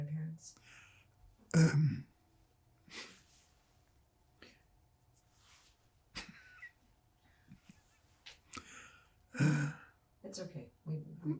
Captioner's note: pauses 10 seconds